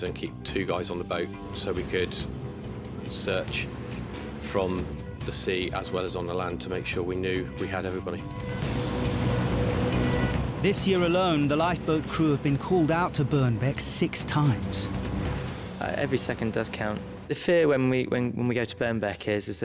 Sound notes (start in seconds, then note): 9.0 boat engine revving; 9.9 dramatic music